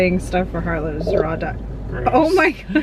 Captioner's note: Harlow burps